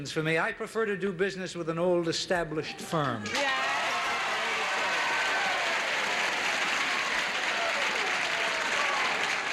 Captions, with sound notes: I prefer to do business with an old established firm. (audience applauding)